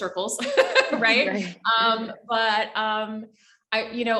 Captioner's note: laughs loudly